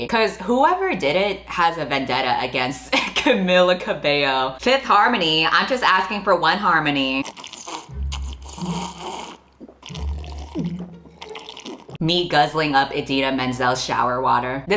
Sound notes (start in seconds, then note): 7.2 loud slurping; 9.5 slurping, gulping